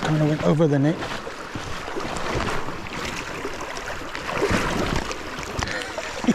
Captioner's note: water splashing; laughs